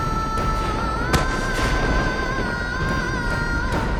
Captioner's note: thuds